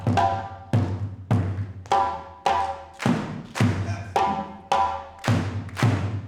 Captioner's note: everyone clapping rhythmically